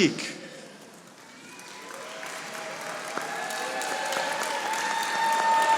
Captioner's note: audience applauding